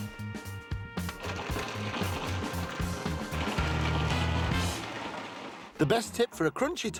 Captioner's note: food processor whirring; cauliflowers rattling